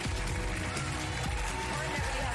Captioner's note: cheers and applause